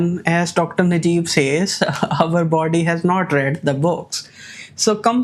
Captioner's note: laughs